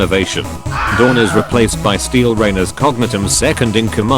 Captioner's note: Wilhelm scream